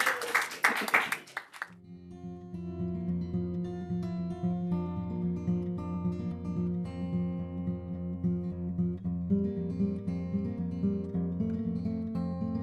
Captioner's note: applause